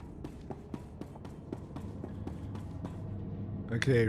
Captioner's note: footsteps